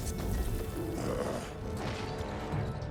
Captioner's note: grunt